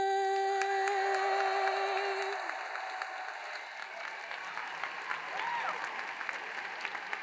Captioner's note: audience applauds; hands clapping